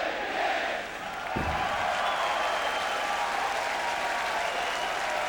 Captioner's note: audience cheering